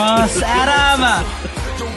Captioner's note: chuckles